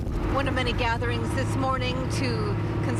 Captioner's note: helicopter chopping